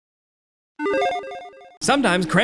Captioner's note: electronic chiming